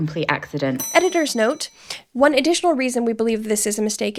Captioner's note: bell ringing